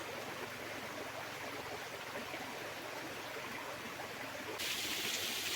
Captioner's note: sound of water